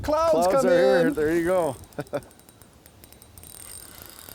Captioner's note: voiceover